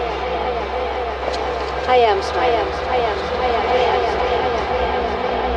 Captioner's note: echoing; light dramatic music